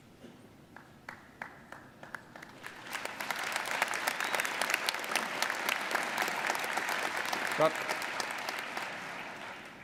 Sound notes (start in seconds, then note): 1.0 audience applauding